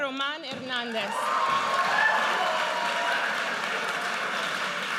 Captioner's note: audience cheers